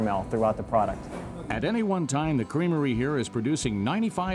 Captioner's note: voiceover